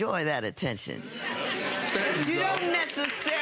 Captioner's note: audience laughs